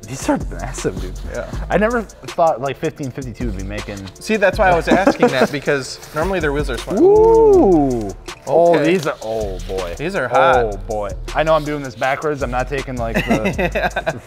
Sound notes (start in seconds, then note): 4.6 laughs; 6.8 guys whoo'ing; 13.1 laughing